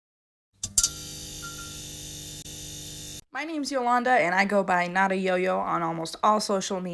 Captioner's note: string light buzzing